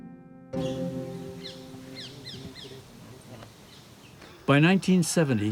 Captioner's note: birds twittering